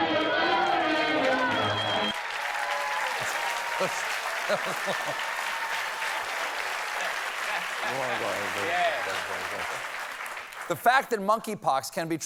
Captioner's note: applause